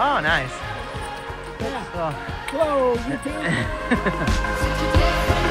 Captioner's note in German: lacht